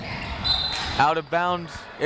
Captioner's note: whistle